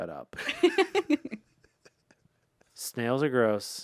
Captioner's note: laughs